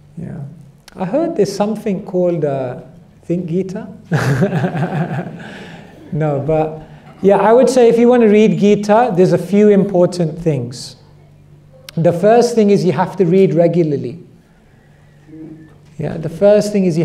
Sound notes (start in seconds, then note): 4.1 laughter